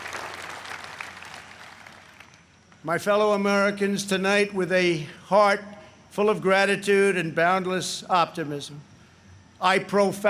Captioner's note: applause